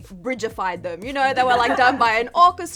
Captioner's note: chuckles